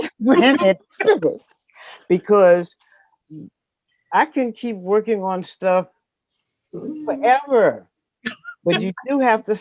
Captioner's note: laughing